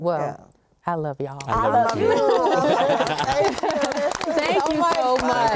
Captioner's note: applause